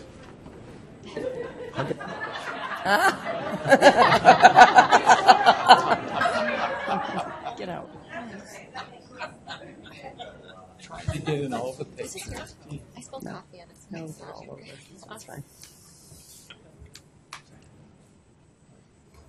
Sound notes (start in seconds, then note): 1.0 audience laughs; 7.3 voiceover; 10.9 voiceover